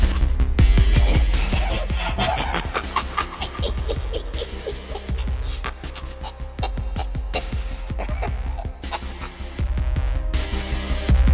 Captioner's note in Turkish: Sprigtrap'ten çıkan gülme sesleri